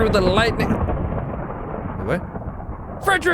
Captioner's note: thunder booms and a chicken clucks